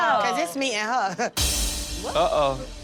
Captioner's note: deep cut dress person laughs; intense dramatic music